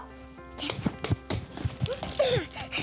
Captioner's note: whispering; running footsteps; giggling